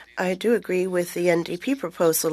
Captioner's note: speaking French